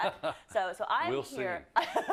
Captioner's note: laugh